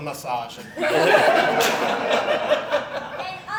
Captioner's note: audience Laughing